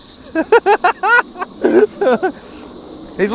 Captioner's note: laughing and giggling